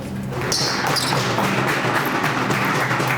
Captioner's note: clapping